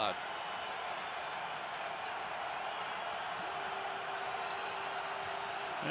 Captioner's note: cheers